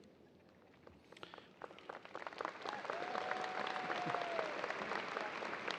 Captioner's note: audience applauding